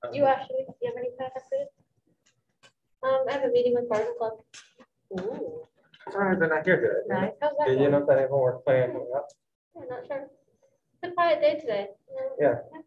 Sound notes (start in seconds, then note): 6.4 speaking foreign language